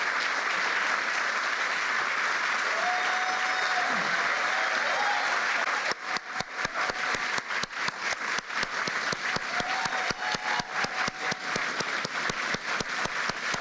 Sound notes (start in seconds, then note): 2.2 applause